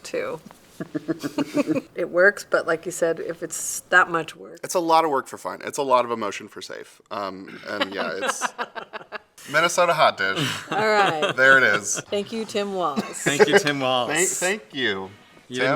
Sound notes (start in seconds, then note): 0.7 chuckle; 7.5 laugh